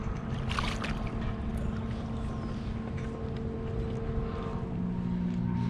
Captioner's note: fish splashing